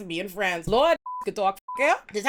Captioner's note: beep